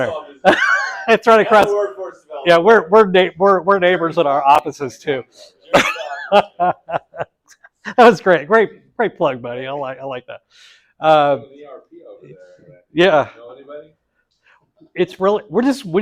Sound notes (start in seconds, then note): 5.6 laugh